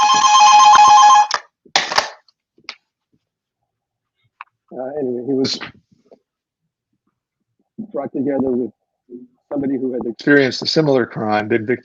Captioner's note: phone ringing